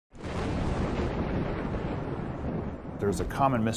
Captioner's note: thunder rumbling